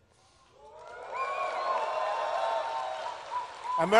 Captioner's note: applause